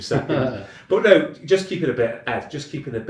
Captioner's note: chuckling